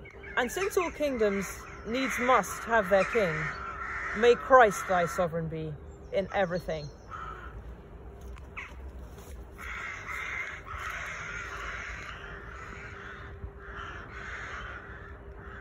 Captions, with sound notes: And since all kingdoms needs must have their King, May Christ your sovereign be in everything. [bird calls...]